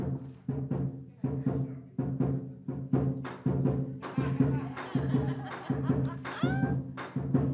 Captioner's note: cheering and rhythmic drumming; rhythmic drumming and cymbals